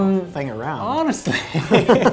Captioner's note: men laugh